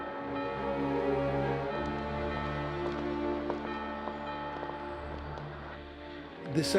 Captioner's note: clock tolling